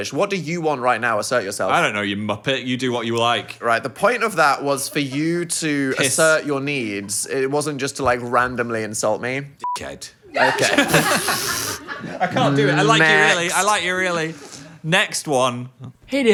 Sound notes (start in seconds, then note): 9.6 beep; 10.4 everyone laughs